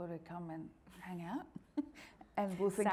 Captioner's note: laughing